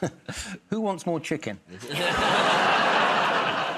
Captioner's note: audience groans; chuckles; laughs